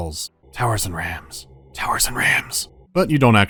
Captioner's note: whispering